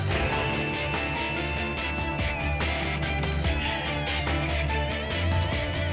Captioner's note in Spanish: Sollozos